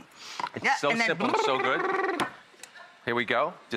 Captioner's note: buzzing lips